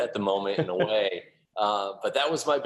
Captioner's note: laughter